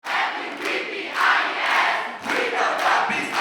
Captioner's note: chanting